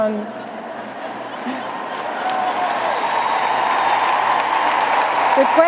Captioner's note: cheers and applause; applause